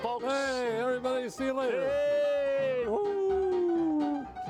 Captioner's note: cheering; lively music continues